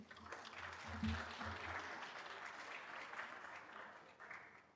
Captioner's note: audience applauds